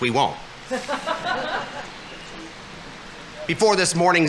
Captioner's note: audience laughing